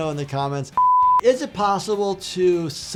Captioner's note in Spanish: pitidos de producción